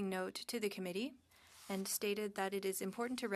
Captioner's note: speaking French